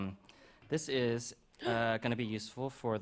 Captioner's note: gasps